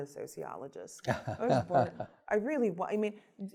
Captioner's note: laughs